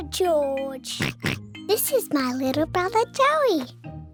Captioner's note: oinks